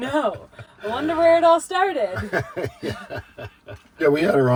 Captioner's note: dad laughing